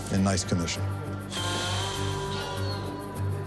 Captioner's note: exhales